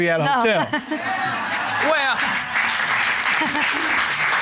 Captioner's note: laughs; audience cheers, applauds; chuckles; audience applauds